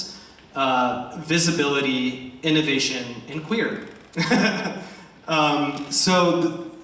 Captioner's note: laughs